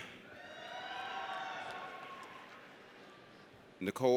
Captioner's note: audience cheers